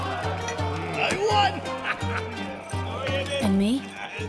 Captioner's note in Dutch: vrolijke muziek gaat verder; lacht